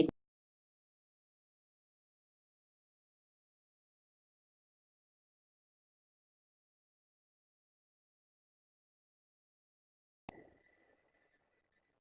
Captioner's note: audio out